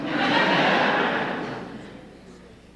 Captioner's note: laughter